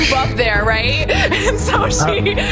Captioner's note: laughing